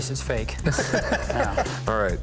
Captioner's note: laughter